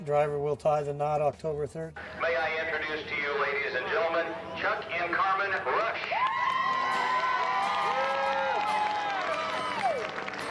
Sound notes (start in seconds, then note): 5.0 crowd cheering